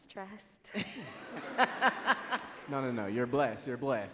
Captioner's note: audience laughs